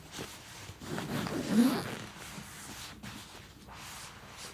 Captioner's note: zippers rasping